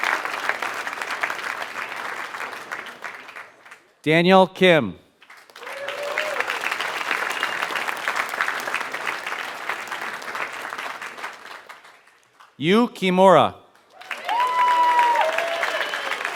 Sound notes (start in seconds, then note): 0.2 applause